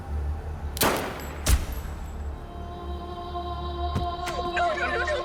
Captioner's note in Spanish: Disparo